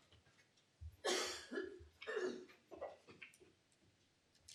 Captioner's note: coughing